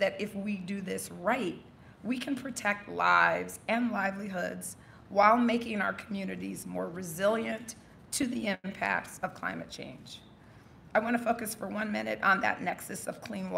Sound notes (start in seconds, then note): none